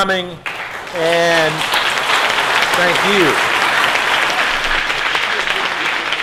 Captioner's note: audience applauding